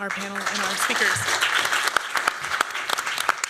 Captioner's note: applause